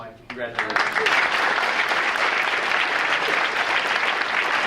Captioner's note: audience applauding